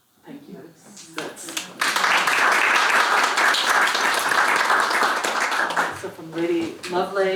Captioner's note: applause